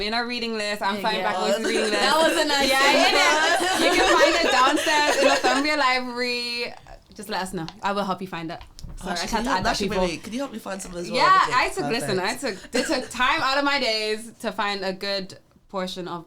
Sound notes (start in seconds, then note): 5.7 laughing